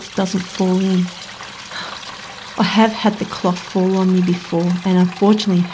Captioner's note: sighing Voice